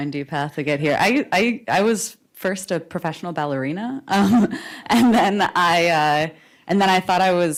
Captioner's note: laughs